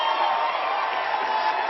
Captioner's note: applause